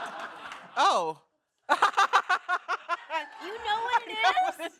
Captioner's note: laughs